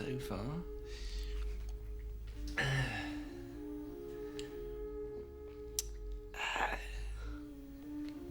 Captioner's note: exhales